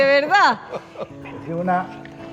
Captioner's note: laugh